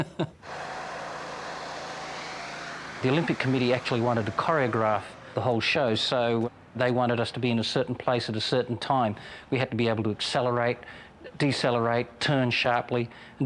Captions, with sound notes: [airboard whirring] The Olympic committee actually wanted to choreograph the whole show. So they wanted us to be in a certain place at a certain time. We had to be able to accelerate, decelerate, turn sharply,